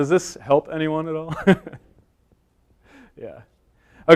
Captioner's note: chuckles